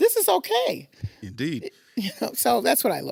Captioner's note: chuckles